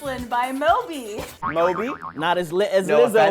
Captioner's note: boing sound effect